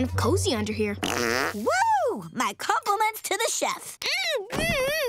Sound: farting

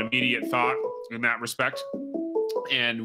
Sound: phone ringing

